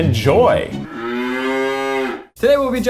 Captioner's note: cow moos